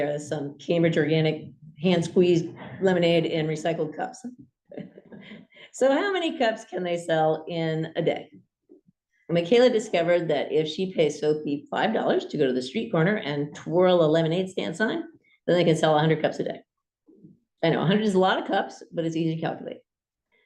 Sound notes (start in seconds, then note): 4.2 laughs